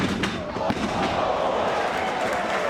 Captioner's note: spectators exclaiming; spectators applauding